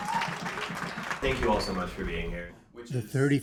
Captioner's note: cheering and applause